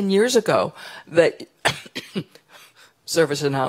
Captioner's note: cough